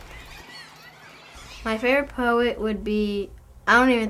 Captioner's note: mice squeaking